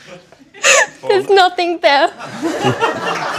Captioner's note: laughs